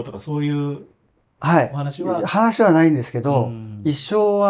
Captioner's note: laughs